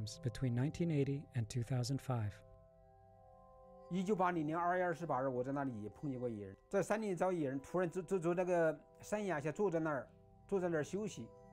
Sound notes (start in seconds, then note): 3.9 in foreign language